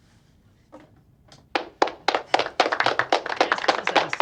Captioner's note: audience applauding